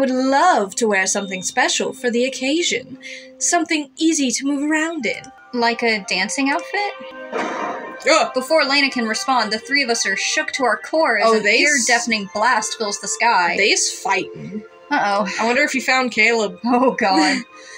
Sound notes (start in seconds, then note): 7.3 boom; 15.1 sigh; 17.1 laugh